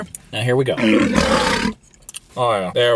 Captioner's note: lion roaring